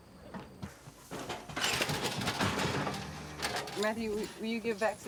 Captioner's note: gate rattling